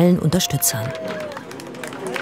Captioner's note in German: Jubel; Applaus